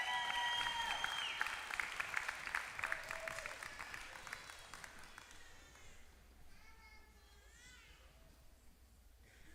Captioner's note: applause